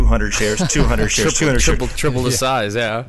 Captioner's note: laughing